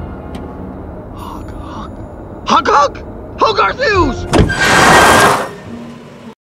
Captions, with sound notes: 'Hog hug'? 'Hog Hug'? Hogarth Hughes! [Brakes screech]